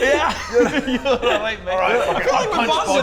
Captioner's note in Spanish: Risas